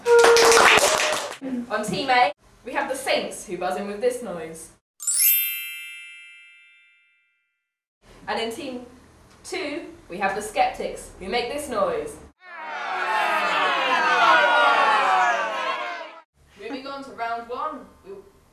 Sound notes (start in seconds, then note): 5.0 glockenspiel; 12.4 booing/jeering